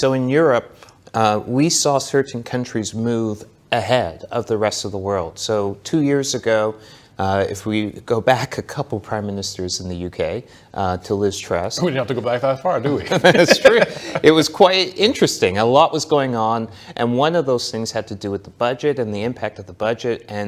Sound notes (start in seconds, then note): 12.9 laughs